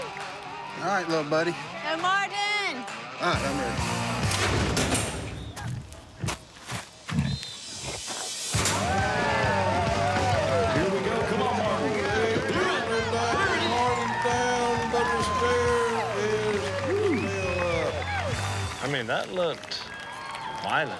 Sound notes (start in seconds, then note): 7.8 cheering